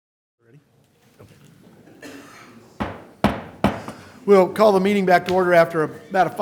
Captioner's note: gavel